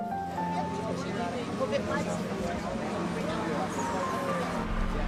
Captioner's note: people chatting